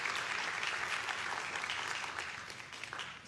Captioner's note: applause